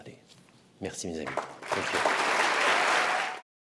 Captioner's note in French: Acclamations et applaudissements